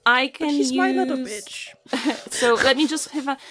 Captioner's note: laughs